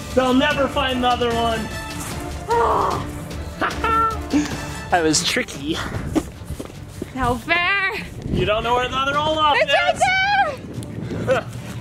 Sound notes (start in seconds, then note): 2.8 mom panting; 3.5 dad laughing